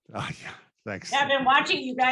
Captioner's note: laughs